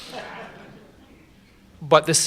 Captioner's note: laughter